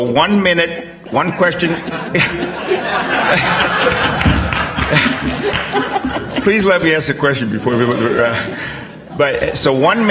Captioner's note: audience, laugh